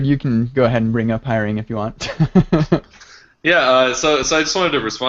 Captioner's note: laughs